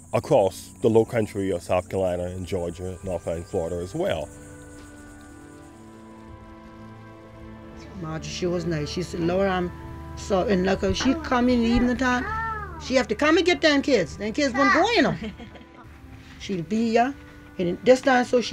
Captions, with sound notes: across the low country of South Carolina and Georgia and north part in Florida as well. (speaking foreign language)